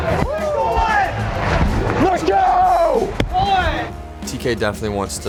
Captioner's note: crowd